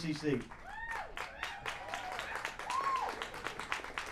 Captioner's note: cheers